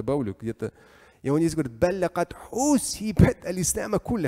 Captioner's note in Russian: говорит на арабском